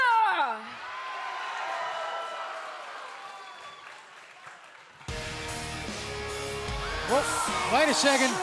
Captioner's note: cheers and applause